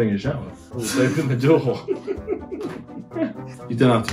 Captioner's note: they laugh